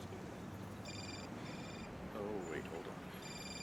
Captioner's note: cell phone ringing